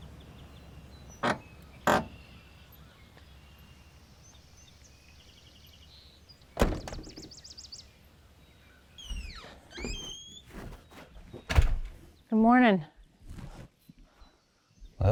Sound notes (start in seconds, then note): 1.8 truck door creaks and bangs; 9.0 door creaks and thuds